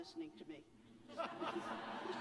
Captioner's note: laughter